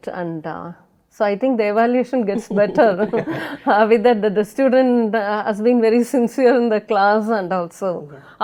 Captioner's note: ha ha ha